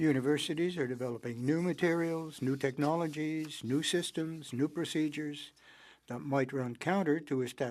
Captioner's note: speaking French